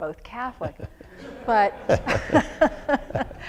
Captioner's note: laughter